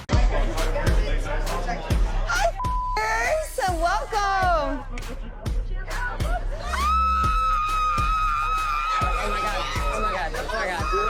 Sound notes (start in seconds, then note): 6.6 screaming